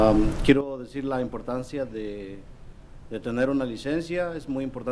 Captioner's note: speaking foreign language